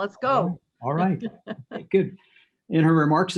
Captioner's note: laughs